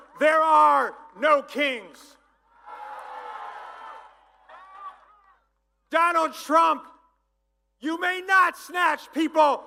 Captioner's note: applause